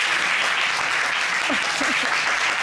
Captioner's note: applause